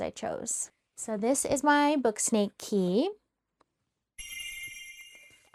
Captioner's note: sparkle sound